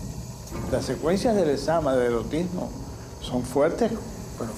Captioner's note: speaking Spanish